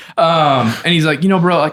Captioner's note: giggles